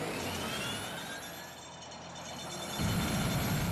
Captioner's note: metallic squeaking